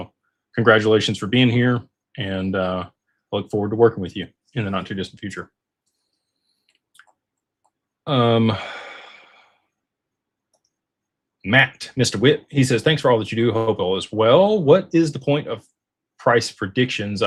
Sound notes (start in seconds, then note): 8.3 sighs